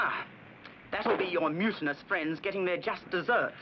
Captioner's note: gunshots